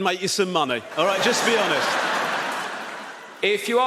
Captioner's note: audience laughs